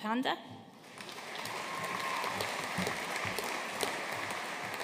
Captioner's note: audience applauding